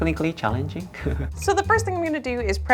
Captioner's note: chuckling